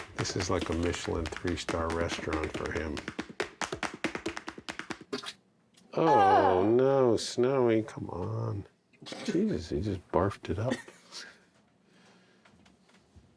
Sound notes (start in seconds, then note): 5.1 Snowy vomits; 10.6 quiet laughing